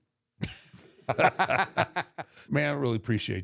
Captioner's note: both laughing